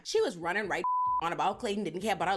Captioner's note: beep